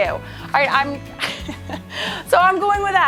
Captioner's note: laughs